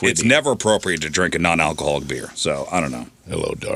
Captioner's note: none